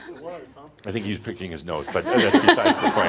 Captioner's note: laughter